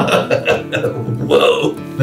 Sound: chuckles

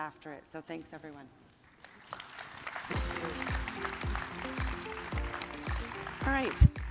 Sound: audience applauds; upbeat music

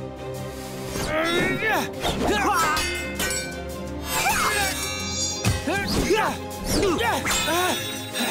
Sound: grunting

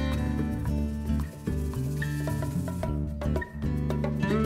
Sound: wings fluttering

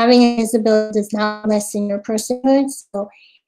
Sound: audio cutting out

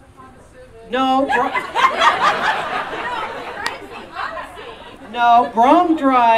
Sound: audience Laughing

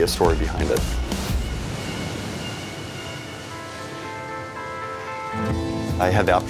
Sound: calm music; waves crashing

